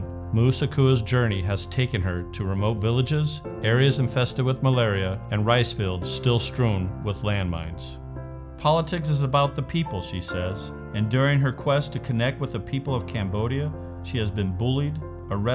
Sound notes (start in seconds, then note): none